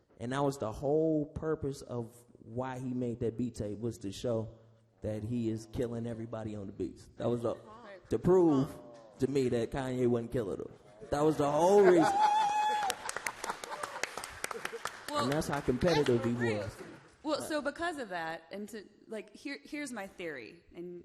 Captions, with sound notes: And that was the whole purpose of why he made that beat tape was to show that he is killing everybody on the beats. That was up to prove to me that Kanye wouldn't kill it. That was the whole reason. (applause) And that's how competitive we was. - Well, so because of that and to here's my theory.